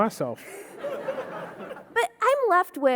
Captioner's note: audience laughing